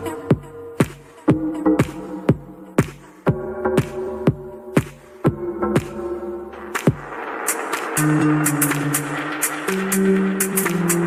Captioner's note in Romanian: Aplauze